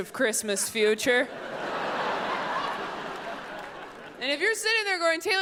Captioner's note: audience laughs